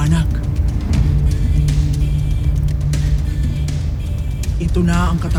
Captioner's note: fire crackling